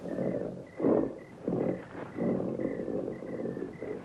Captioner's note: growling